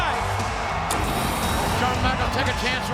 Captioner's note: title whirs